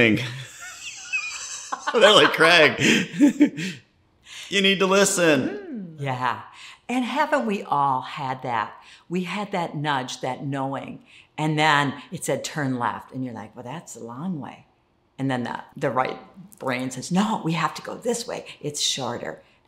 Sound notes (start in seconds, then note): 0.2 laughs